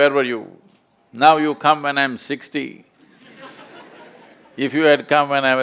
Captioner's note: few laugh